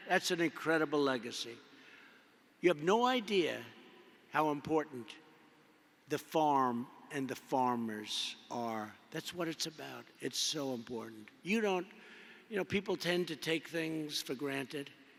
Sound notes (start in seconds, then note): none